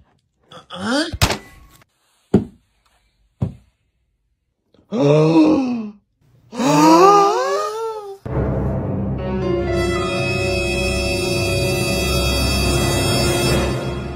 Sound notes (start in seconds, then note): 4.8 la gasp; 8.3 disturbing music plays